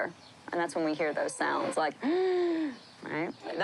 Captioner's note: wheezes